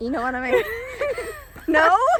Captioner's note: both laughing